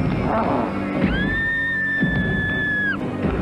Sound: screaming

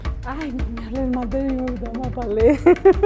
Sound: laugh

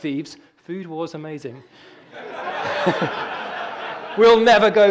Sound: all laughing

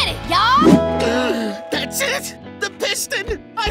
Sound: gasps

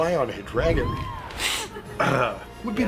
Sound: sniffs

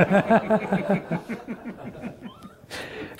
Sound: laughter

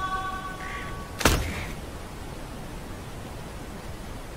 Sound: thud

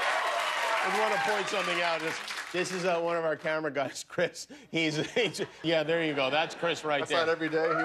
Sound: cheers and applause

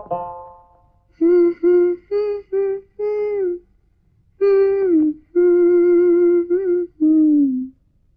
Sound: humming

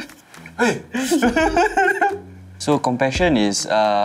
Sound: laughs

